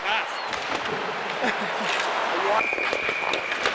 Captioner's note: Caufield laughs